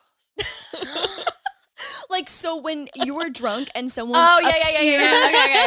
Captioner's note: laughs